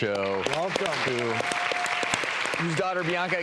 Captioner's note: applause